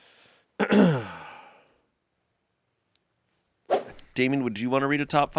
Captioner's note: clears throat